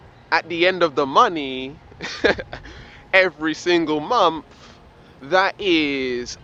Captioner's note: laughs